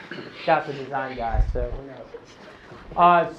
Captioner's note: laughing